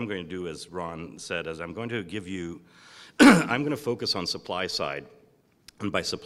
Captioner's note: cough